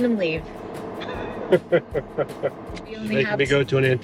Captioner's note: laughing